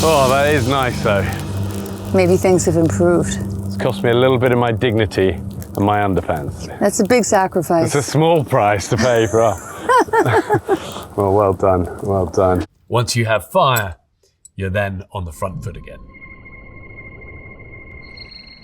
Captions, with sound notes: Oh, that is nice though. - Maybe things have improved. - It's cost me a bit of my dignity and my underpants. - That's a big sacrifice. It's a small price to pay, bruh. [both laughing] Well, well done, well done. Once you have fire, you're then on the front foot again. [tense music]